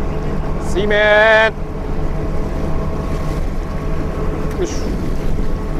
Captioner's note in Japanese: ネットを上げる際の位置を伝えるための発声